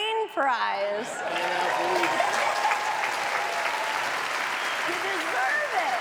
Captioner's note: audience applauds